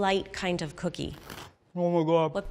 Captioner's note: cookie crunches